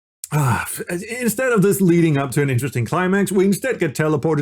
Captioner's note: sigh